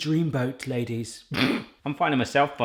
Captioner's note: laughing